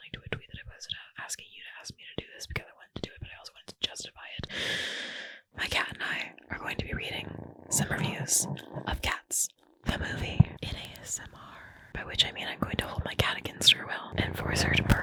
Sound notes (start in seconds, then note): 4.5 loud inhale; 6.1 purring